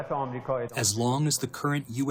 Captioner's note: through translator